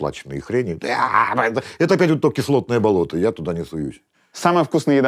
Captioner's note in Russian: звуки отвращения